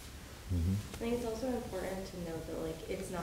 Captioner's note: woman's Voice